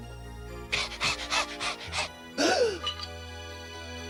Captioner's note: panting